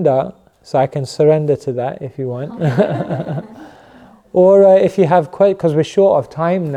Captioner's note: laughter